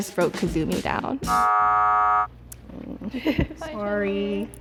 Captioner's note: buzzer sounding